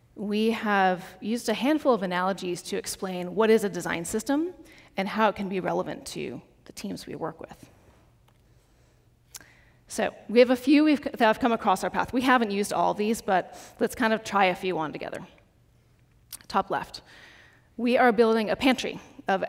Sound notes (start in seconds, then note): none